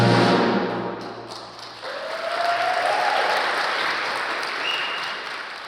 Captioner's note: applause